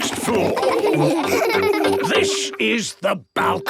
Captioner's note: laughing